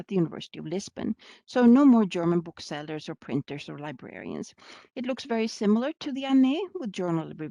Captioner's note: German